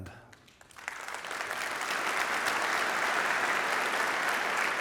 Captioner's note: audience applauding